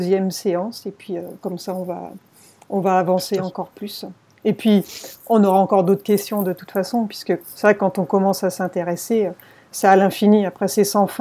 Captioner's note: laughs